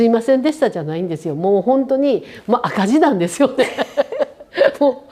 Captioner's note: laughs